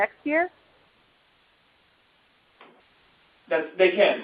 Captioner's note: silence